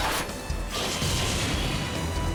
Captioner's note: blast